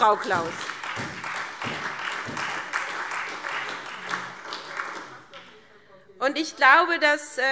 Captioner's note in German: Beifall SPD und Freie Demokraten